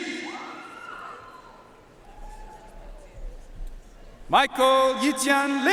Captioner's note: audience cheering and applauding